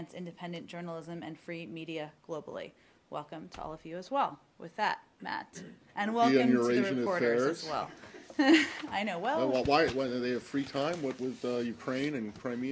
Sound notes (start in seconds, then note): 8.1 laughter